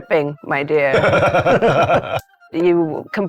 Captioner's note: players laughing